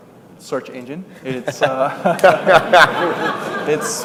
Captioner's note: laughter